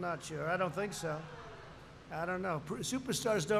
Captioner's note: laughter